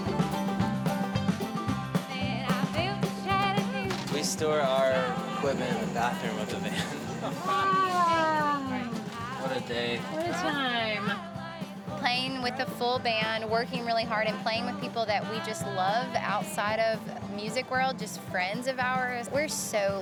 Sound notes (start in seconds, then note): 0.1 upbeat bluegrass music; 3.3 singing faintly; 8.2 sighs